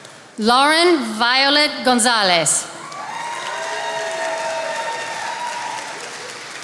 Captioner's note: attendees applauding